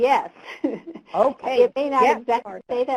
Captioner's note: voiceover